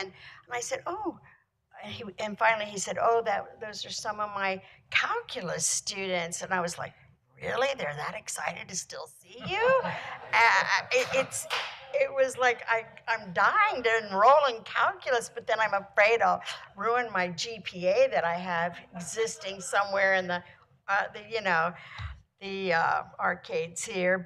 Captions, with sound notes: And I said, oh, and finally he said, oh, that, those are some of my Calculus students. And I was like, really? They're that excited to still see you? (laughter) It, it's was like, I'm, I'm dying to enroll in Calculus but then I'm afraid I'll ruin my GPA that I have existing somewhere in the, uh, you know, the, uh, arcades here.